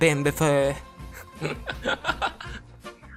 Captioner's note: shitty Laughter